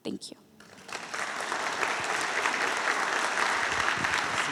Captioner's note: applause